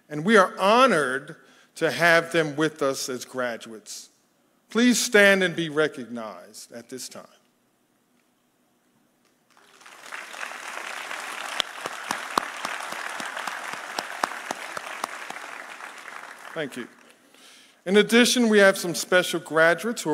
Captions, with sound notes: and we are honored to have them with us as graduates. Please stand and be recognized at this time. (audience applauding) Thank you. In addition, we have some special graduates